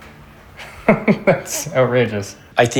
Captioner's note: chuckles